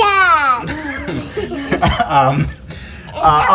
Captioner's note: guy laughing